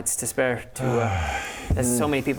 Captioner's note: hrrgh